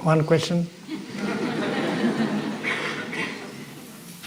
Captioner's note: Suara tertawa